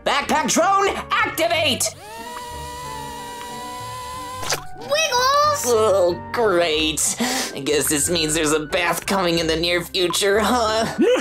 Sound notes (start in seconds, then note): 1.9 drone whirs; 4.5 slime squishes